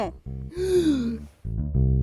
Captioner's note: HERCULE POISSON gasps